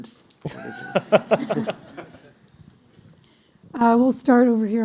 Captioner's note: laughter